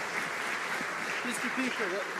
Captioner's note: some Applause